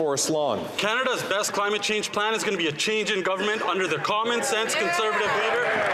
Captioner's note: some Applause